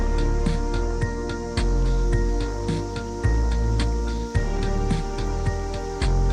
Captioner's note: river flowing, cicadas chirping